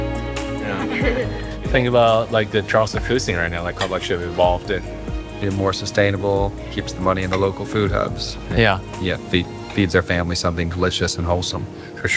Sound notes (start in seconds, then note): 0.6 person giggling